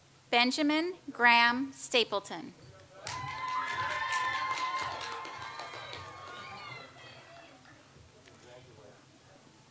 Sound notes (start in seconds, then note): 3.0 audience applauds